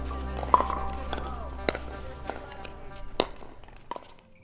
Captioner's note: pickelballs bouncing